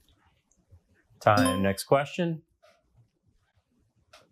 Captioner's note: bell clangs